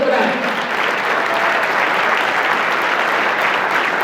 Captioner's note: applause